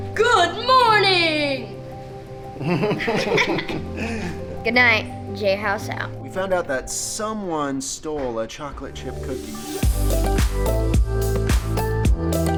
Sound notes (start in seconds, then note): 2.5 all laughing; 9.0 upbeat music